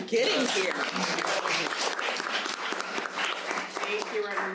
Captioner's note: audience applauding